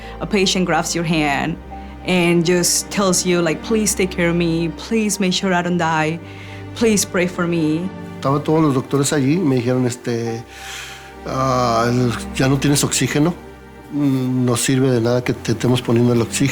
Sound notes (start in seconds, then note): 8.2 man speaking Spanish